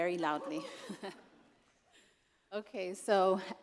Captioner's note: laughter